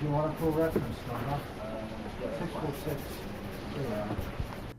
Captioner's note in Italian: rumori di ufficio